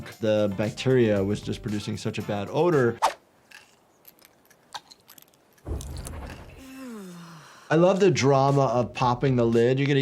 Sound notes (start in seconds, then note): 3.5 capsules rattling; 6.5 player character sighs in relief